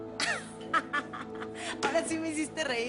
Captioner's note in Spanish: Risas